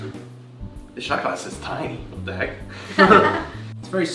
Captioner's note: laughter